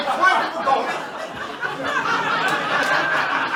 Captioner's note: laughter